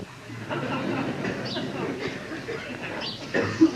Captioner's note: yogis laugh